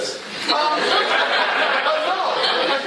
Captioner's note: laughter